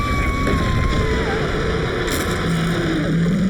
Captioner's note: Glenda screaming; shark roaring; teeth crunching